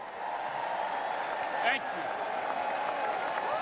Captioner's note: applause